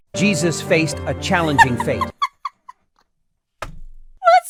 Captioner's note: giggles